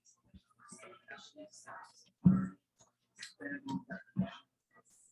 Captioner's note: people chattering indistinctly